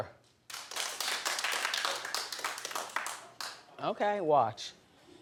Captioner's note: audience clapping